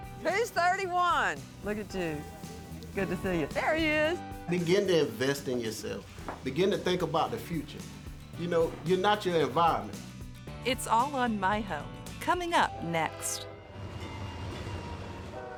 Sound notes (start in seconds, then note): 11.7 train engine roaring